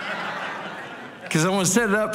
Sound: congregation laughing

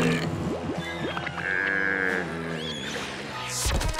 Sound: moaning

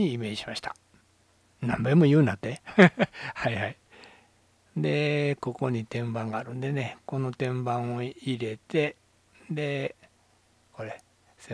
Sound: laughs

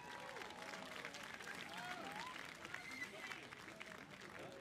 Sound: audience applauding

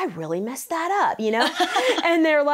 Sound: laughs

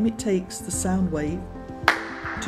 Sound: clapping sound

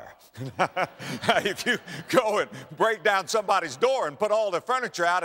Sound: laughter

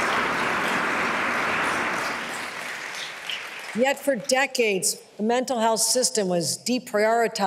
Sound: applause

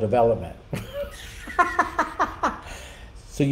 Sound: laughing

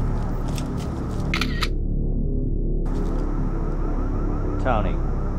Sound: camera snapping

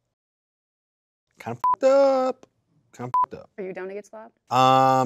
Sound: beep

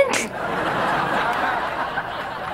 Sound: laughing

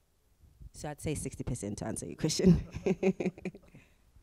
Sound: laughs

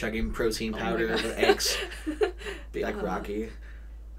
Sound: laughs

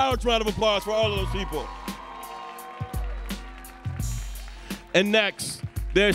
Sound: audience cheering

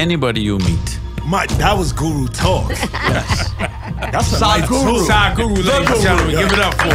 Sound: laughter

